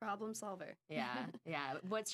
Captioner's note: laughing